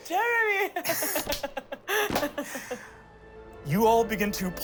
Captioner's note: laughs